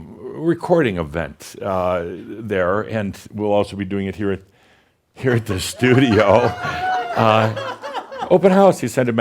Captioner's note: laughter and face